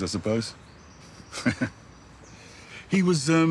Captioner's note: he chuckles